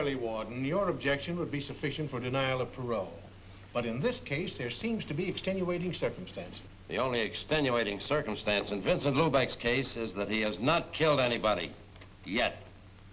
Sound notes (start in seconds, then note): none